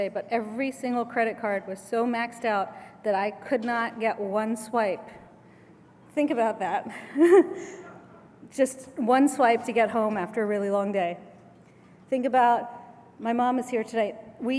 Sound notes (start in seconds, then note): 7.0 laugh